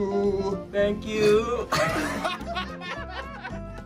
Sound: laughs

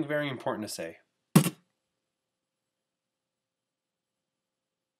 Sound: audio cuts out

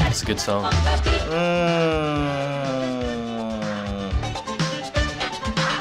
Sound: groaning

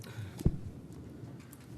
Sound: laughter

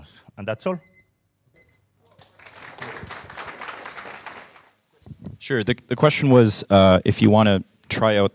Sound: applause

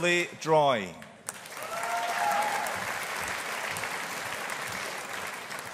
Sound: audience applauding

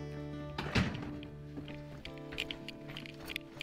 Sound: door clicking closed; fast footsteps crunching on gravel

